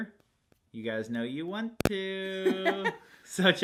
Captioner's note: laughing